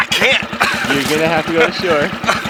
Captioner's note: engine idling; laughing; water splashing